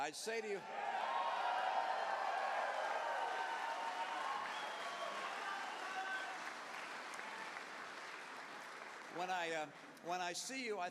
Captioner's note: cheers